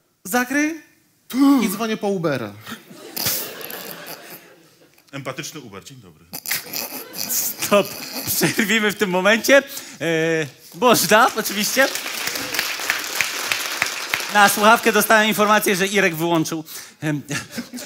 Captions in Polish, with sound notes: zakryj i dzwonię po Ubera. [ŚMIECH] - Empatyczny Uber, dzień dobry. - Stop, przerwijmy w tym momencie. Można, oczywiście. [OKLASKI PUBLICZNOŚCI] Na słuchawkę dostałam informację, że Irek wyłączył.